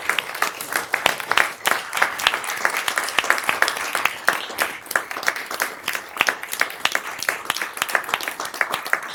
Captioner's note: applause